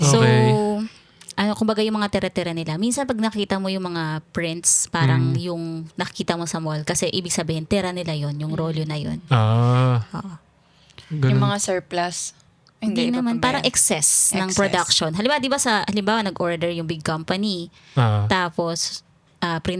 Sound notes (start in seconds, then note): 10.3 speaking in foreign language